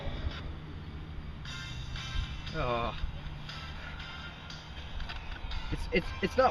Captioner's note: Alex groans